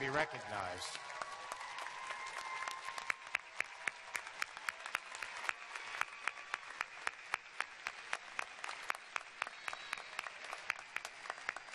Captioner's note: cheers and applause